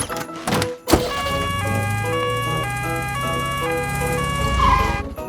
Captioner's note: siren sounding